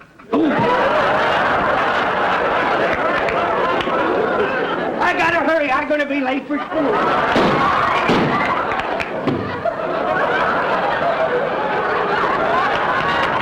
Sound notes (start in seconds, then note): 0.3 audience laughter; 7.3 gunshots; 8.0 explosion; 10.1 audience laughter